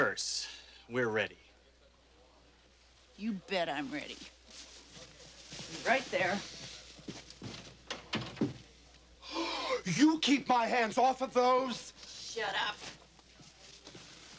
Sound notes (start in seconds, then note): 9.2 gasps